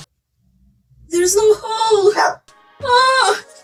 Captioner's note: my dog's barking again